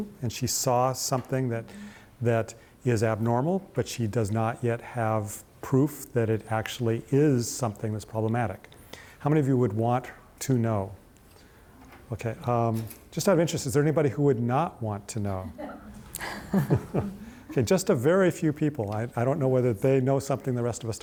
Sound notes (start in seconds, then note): 16.2 all laugh